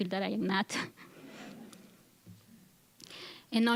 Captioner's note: audience chuckling